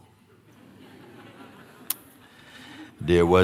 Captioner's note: laughter